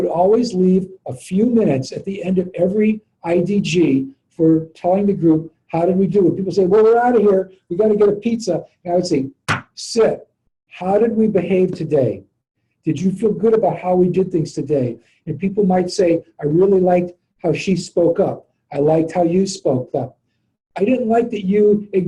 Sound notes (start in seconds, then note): 9.4 clap